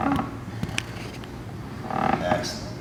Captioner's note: none